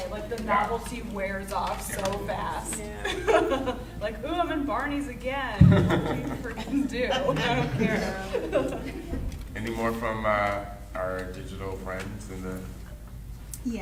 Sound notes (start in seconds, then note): 3.0 laughing